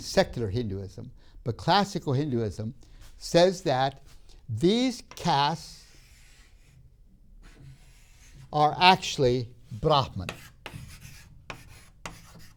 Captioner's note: chalk scraping